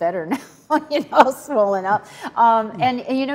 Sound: laughs

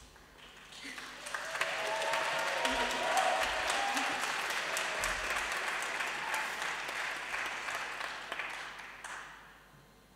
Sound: applause and cheering

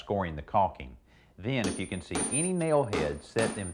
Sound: hammer thumping

